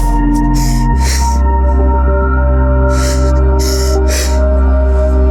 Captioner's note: cries